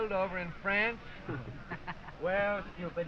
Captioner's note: all chuckle